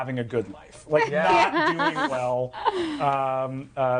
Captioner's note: laughing